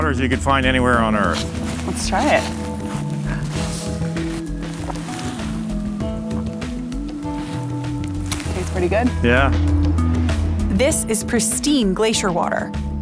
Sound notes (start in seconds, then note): 4.8 swallows